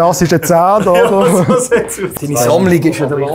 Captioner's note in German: lacht